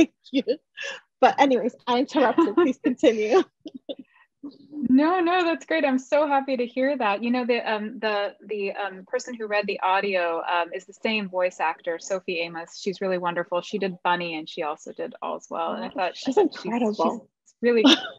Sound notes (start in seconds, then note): 2.2 chuckles